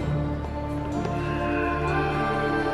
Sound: eagle screech

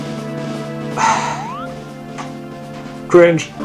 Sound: sighs

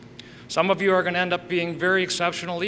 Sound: none

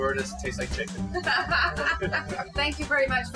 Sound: laughing

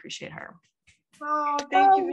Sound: clapping

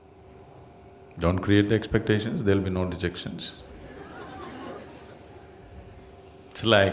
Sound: laughter

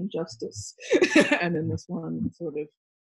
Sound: laughs

